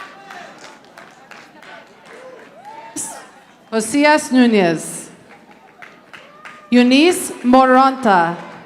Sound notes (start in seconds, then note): 5.2 audience applauding